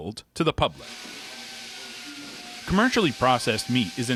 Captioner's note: machines buzzing